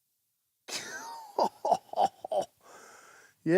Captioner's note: laughing